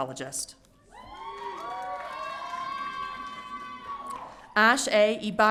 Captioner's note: audience cheering